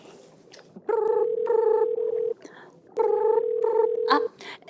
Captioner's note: ring ring ring ring